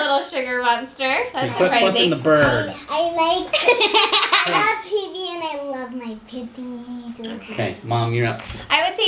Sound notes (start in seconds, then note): 3.5 laughter